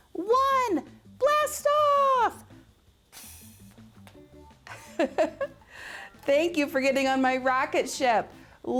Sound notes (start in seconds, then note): 4.6 chuckles